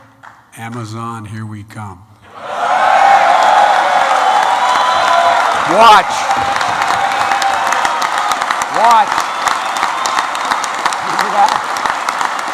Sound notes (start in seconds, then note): 2.7 applause